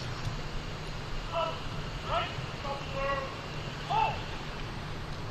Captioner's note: military commands off mic